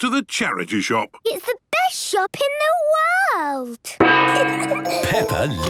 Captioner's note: kids giggling